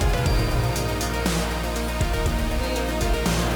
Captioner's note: audience applauding and cheering